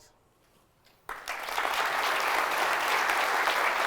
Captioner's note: applause